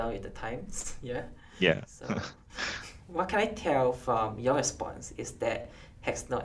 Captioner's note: chuckles